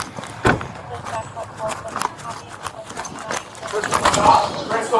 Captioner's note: radio chatter